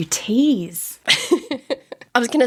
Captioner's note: laughing